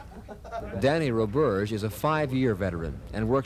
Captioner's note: laughter